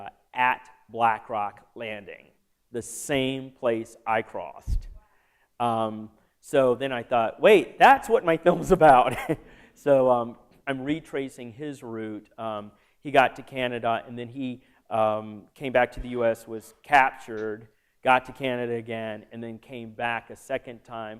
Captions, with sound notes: at Black Rock Landing. The same place I crossed. >> Wow. >> So then I thought, wait, that's what my films about [laughter]. So I'm retracing his route. He got to Canada and then he came back to the U.S., was captured. Got to Canada again, and then came back a second time